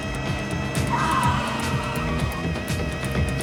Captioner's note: tires squealing